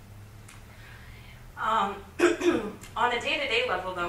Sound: clears throat

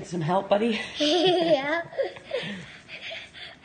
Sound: laughing

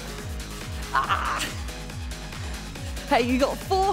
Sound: groaning

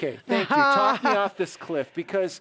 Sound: laughing

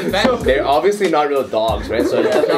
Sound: giggles

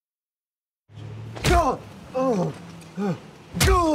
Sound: groaning tiredly; grunts

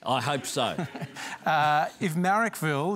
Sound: laughter

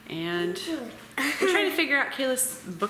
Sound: laughing

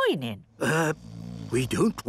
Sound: people snoring

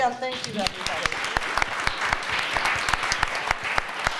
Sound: applause

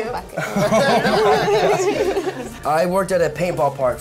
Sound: others laugh

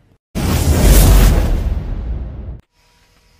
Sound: wind gusts

